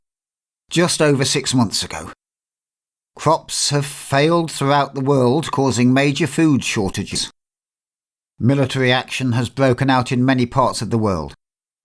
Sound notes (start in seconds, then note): none